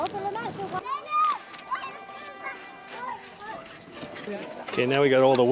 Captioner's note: indistinct chattering in the background